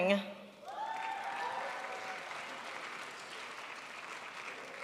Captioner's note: crowd applauds